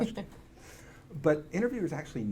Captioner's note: laughs